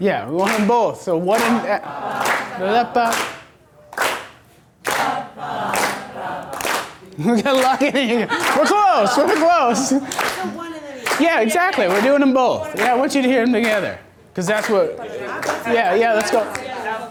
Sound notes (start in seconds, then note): 10.6 voiceover